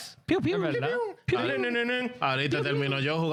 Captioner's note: speaking In Foreign Language